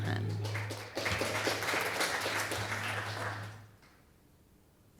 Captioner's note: applause